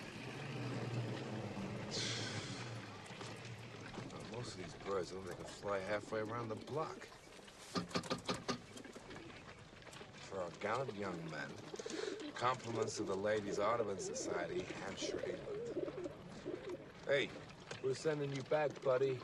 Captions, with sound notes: [SIGHS] SGT. GAEDEKE:Now most of these birds don't look like they could fly halfway around the block. For our gallant young men. Compliments of the Ladies Audubon Society,Hampshire, England. We're sendin' you back, buddy.